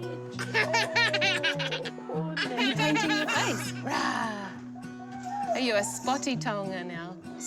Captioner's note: both laugh